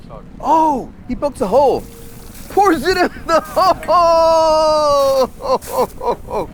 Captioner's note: laughing